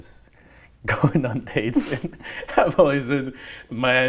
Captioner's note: laughs